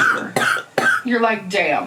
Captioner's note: coughing